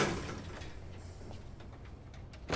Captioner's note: door thuds